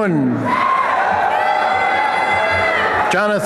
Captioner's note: applause and cheering